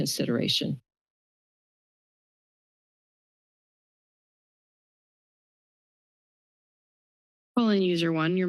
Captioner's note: silence